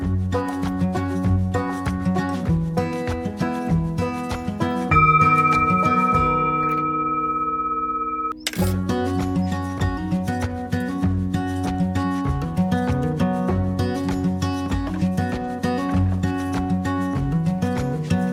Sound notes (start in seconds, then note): 4.9 Sound of the Tibetan bowl ringing